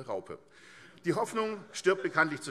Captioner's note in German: Heiterkeit AfD